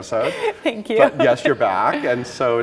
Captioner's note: laughing